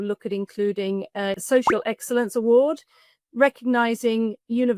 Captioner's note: graphic popping